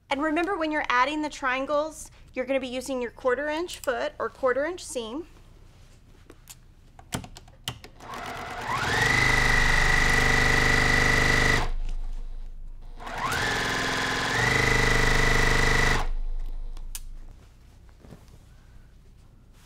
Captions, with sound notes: and remember, when you're adding the triangles, you're gonna be using your quarter inch foot or quarter inch seam. (sewing machine whirring)